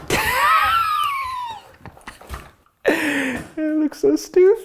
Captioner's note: laughs